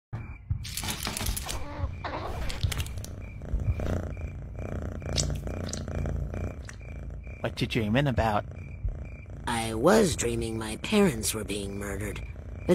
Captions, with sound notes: [ cat noise ] [ purring ] what are you dreaming about? [ purring ] I was dreaming that my parents were being murdered...